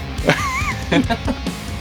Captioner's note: laughter